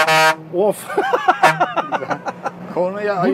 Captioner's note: laughings